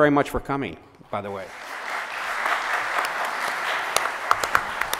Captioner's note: audience applauses